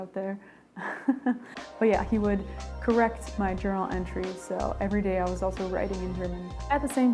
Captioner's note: laugh